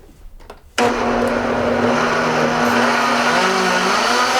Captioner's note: whirring